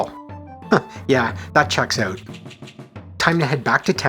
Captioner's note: chuckle